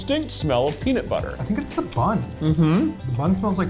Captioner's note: humming